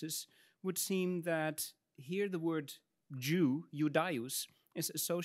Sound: speaks in Latin

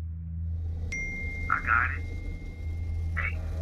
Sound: text message beep

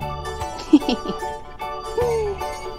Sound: laughs

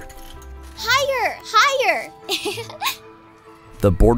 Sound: giggles

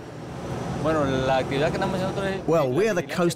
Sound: speaking Spanish

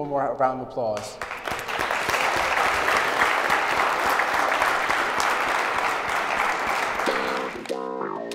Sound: applause

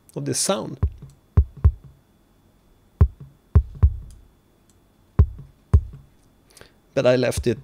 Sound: muffled kick sound

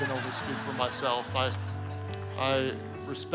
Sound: congregation laughing

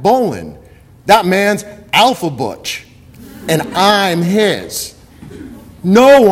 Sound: audience laughter

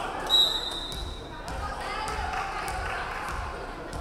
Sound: referee whistling

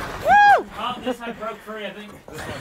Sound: cheering

